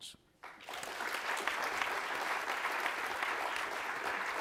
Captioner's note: audience applauds